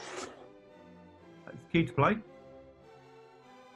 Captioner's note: none